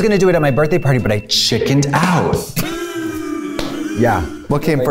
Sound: laughs

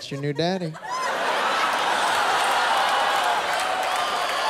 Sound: laughter; laughter, cheering, applause

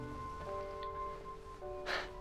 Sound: clears throat

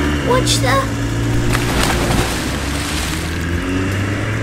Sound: splash!

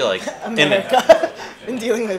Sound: laughs

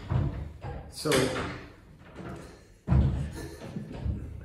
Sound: more loud door noises; more door noises

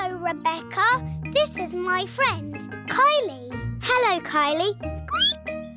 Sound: squeaks

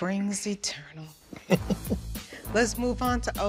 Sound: chuckles

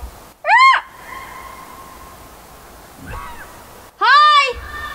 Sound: screaming animal

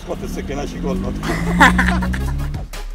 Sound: both laugh

